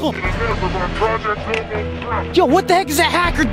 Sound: hacker mumbling

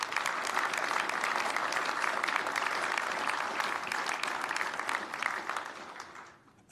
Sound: applause

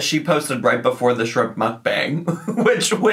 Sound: laughs

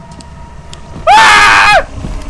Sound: manly squeals

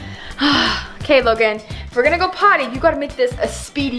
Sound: sighs

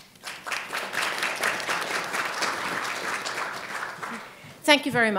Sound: audience applauding

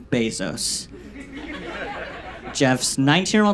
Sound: audience laughs

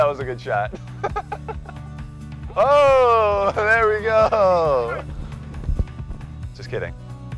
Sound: laughs

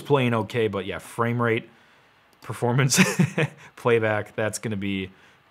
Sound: laughs

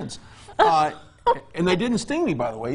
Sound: laughs

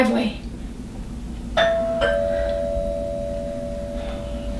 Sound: doorbell rings again

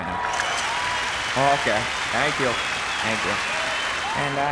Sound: applause; cheers

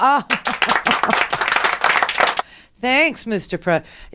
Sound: applause

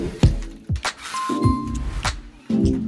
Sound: notification bar dings; gentle upbeat music

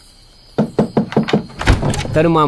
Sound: knocking

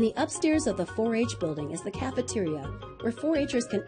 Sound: voiceover

